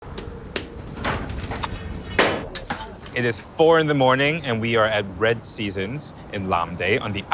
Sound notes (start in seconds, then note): 0.1 metal clanging; 0.4 fire crackling; 0.5 tool thumping